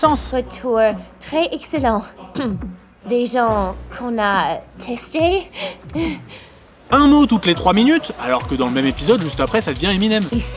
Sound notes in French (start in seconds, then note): 2.3 Raclement de gorge; 5.5 Rire gêné